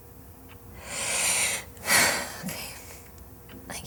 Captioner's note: sigh